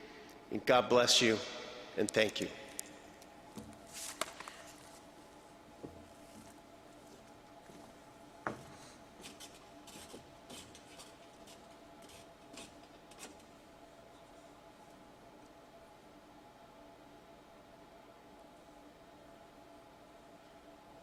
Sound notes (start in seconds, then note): 14.6 silence